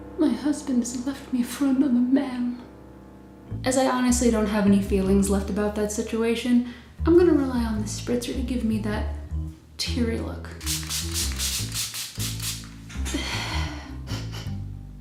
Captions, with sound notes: "My Husband Left Me For Another Man" As I honestly don't have any feelings left about that situation, I'm gonna rely on this spritzer to give me that "teary" look. *Spritzer sounds* *heavy sigh* *Sniffle sniffle*